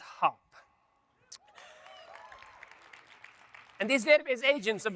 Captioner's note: audience members cheer; audience members applaud